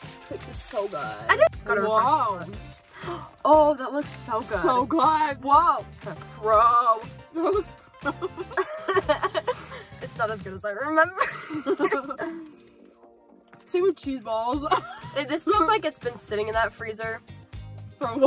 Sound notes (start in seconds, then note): 2.8 gasps; 8.0 laughing; 11.1 laughing